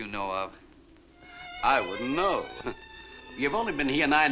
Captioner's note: chuckles